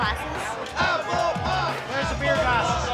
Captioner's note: chanting